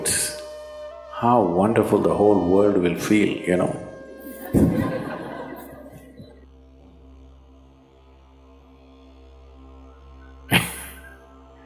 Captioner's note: laughter